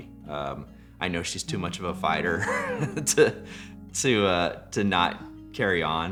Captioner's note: laughs